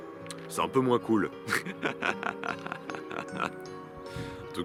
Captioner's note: laughs